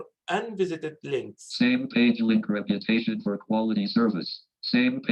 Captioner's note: automated Voice